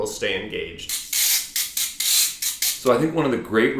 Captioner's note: rasping